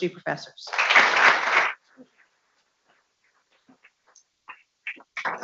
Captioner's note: people clapping